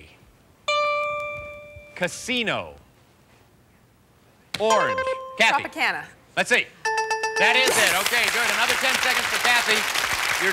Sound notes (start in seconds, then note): 4.6 buzzer rings; 4.7 bell rings